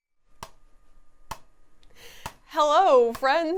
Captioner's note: plastic bottles banging